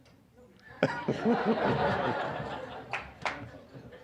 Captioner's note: audience laughing